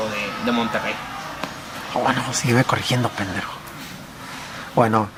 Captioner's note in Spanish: murmuro